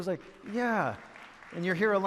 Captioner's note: some clapping in audience